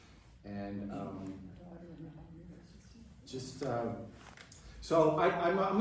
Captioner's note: indistinct chatter